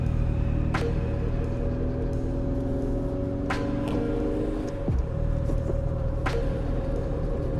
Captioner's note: car engine noise